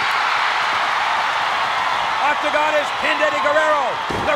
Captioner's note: applause